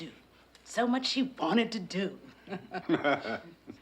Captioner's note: laughs; Marshall laughs